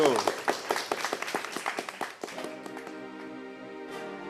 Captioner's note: applause